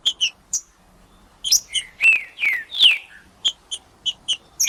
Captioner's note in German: trinca ferro cantando